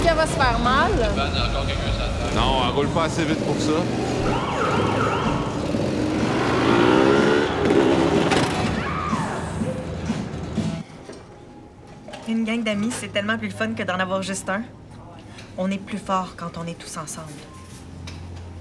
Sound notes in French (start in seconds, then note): 4.0 sirène; 8.0 cri de Valérie